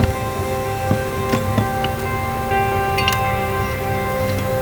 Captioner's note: metal clinking